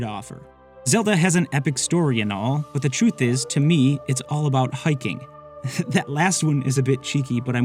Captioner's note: laughs